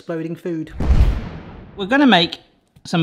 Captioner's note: explosion blasts